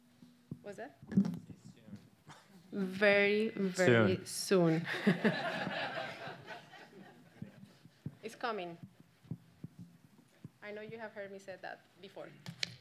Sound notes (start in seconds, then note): 4.8 audience laughs